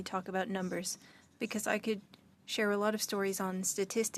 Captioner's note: speaking French